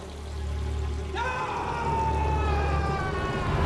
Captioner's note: screams